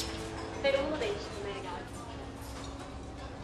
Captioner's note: TV female voice